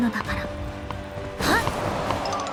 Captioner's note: grunt